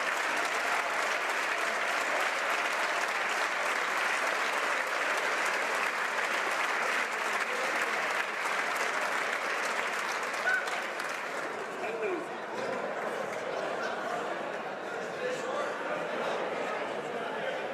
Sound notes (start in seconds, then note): 2.0 applause